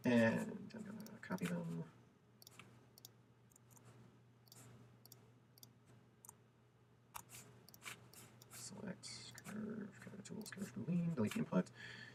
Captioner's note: computer clicks, mumbling